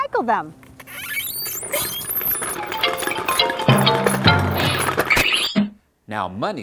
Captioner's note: sounds of cans on ground